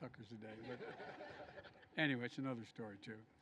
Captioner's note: laughter